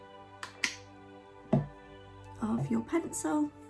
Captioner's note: knocking on table